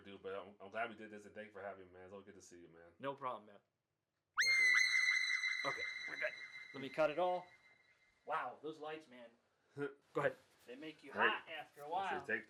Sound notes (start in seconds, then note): 4.4 high-pitched screaming tone